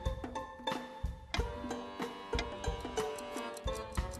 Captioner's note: ticking